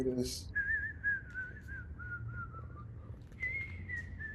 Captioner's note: whistling